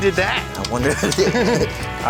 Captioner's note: laughs